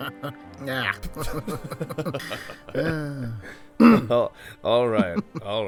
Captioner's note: both break out laughing; laughing